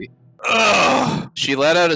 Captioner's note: groaning